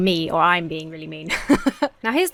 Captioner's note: laughs